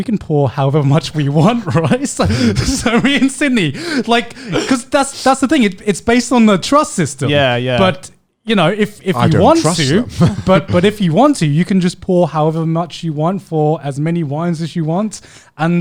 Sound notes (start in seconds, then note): 2.3 laughing